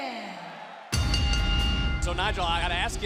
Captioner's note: bell ringing